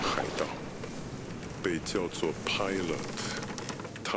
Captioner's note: ship creaking water splashing